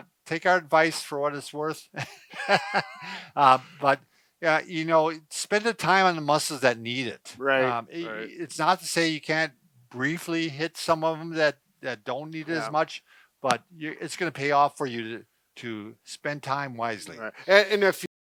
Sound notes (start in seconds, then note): 2.0 both chuckle